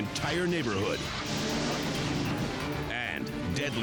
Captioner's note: crash thundering